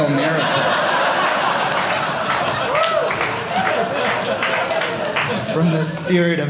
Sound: audience laughing

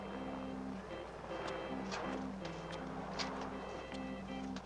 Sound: doorbell rings

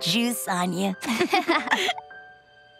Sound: chuckling

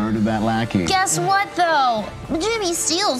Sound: imitates child's voice

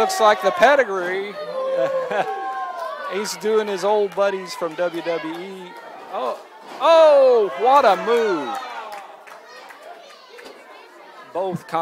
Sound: ha ha

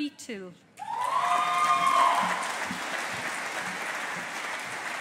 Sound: audience applauding

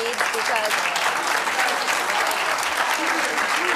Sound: clapping

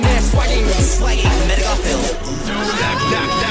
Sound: ooh

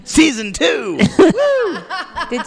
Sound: more laughter

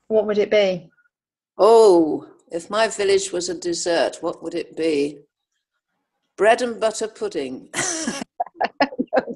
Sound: laughs

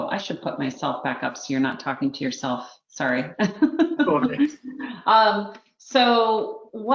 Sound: laughs

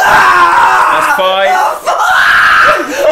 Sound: screaming cont

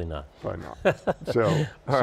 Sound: laughing

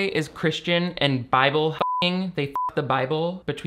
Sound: beep

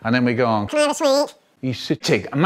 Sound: Ben Shapiro noises

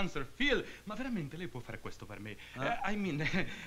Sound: speaking italian

